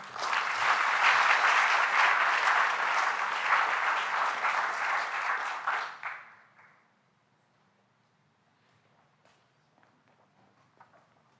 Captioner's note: applause